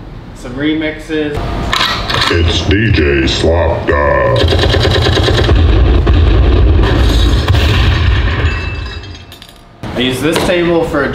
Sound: very cool explosion sounds

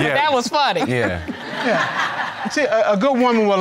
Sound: audience laughing

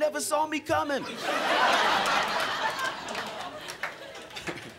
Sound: crowd laughing

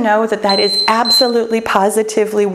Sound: timer beeps

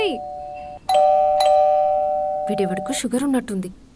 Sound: calling bell 00:12:49

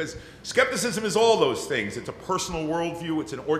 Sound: none

